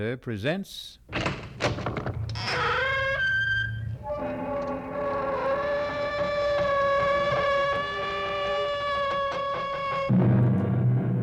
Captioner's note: door creaks open slowly